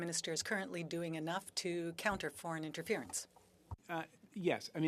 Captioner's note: speaking French